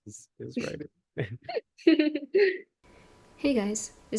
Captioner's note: laughter